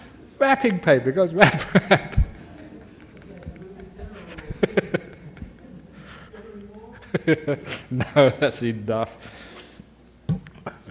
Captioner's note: Ajahn Laughs